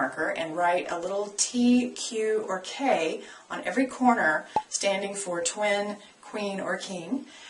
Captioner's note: pop